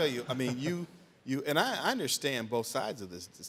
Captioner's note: laughing